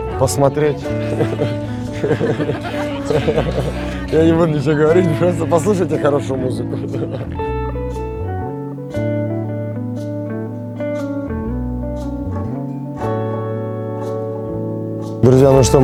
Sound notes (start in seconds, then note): 5.8 laughs